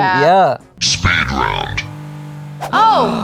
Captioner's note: electronic Voice